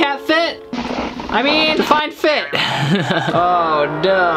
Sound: laughs

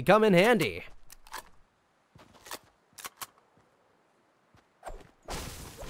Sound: gun clicks

